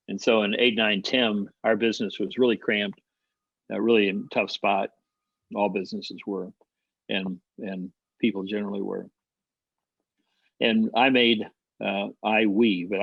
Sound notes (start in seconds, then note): none